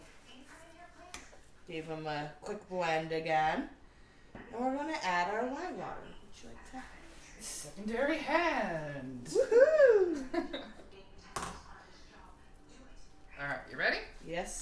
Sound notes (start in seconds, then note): 9.3 laughs